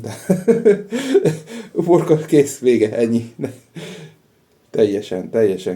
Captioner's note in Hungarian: nevetés